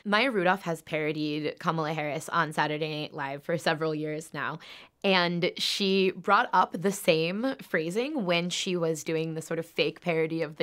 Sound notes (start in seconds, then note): none